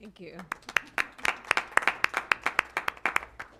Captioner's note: applause